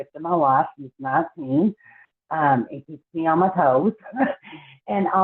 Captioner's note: laughs